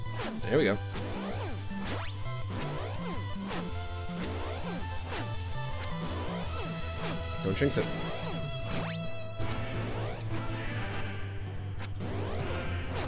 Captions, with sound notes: There we go. [ Music distorts ] Don't jinx it. [ Distorted vocalizing ]